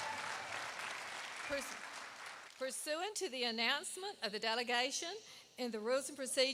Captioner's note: applause